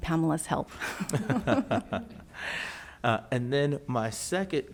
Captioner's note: both laugh